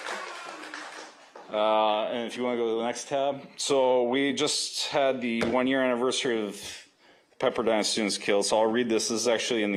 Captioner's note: applause